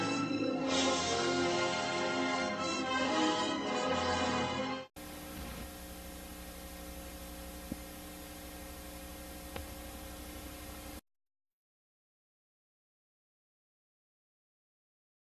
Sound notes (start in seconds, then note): 5.0 VHS static; 11.8 silence